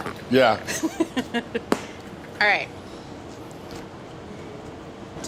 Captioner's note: laughs